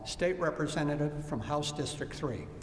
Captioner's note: none